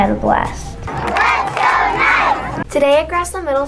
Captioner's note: crowd chants